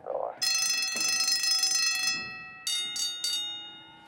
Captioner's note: stage bell rings